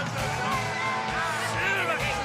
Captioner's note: crowd chatter